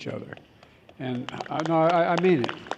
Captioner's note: applause